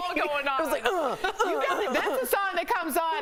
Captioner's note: laughter